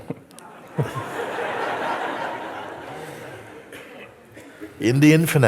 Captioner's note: laughter